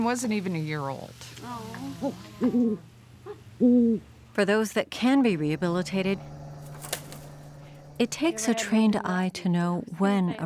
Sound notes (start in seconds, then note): 3.6 owl hooting